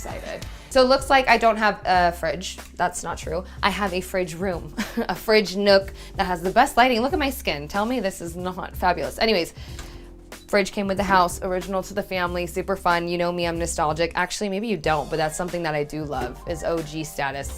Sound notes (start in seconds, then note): 4.8 chuckles